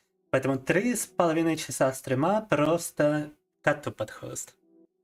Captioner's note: speaking in foreign language